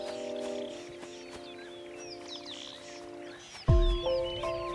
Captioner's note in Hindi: चहचहाहट; उदास संगीत